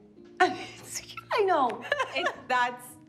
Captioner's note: laughing